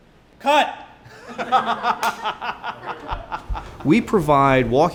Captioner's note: laughs